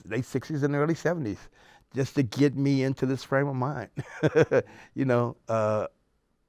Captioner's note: laughs